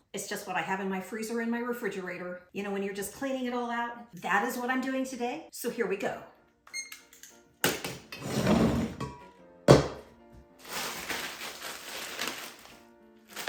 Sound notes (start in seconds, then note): 6.7 timer beeps; 8.2 gentle music